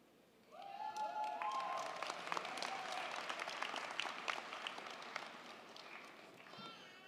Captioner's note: crowd cheering; crowd clapping